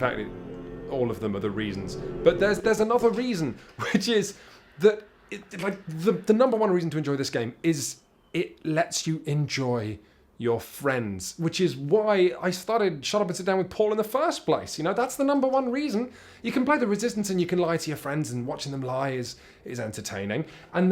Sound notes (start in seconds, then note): 2.0 music glitches; 3.7 chuckle